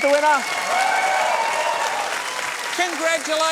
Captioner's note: cheering and applause